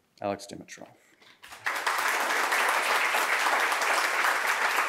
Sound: audience applauding

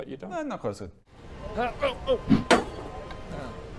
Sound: thunk

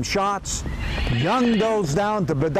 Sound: horses neigh

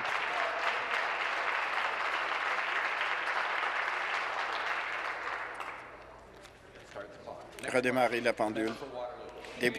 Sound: applause

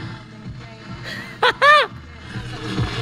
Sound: cheering

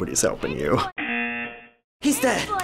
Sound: buzzer

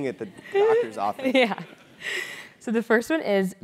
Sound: laugh

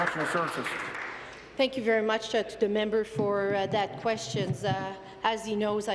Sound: applause

